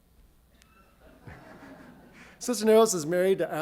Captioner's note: audience laughs